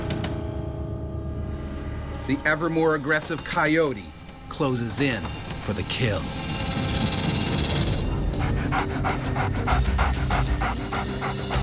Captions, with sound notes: - [Voiceover] The ever more aggressive coyote closes in for the kill. (panting)